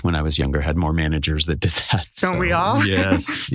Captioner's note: laugh